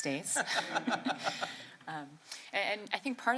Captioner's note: laughter